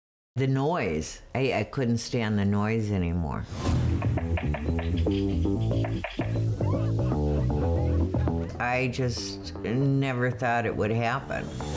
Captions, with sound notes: - The noise. I couldn't stand the noise anymore. (upbeat music) (woodpecker beak rattling) (people laughing) I just never thought it would happen.